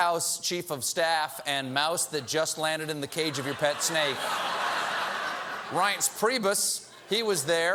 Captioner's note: audience booing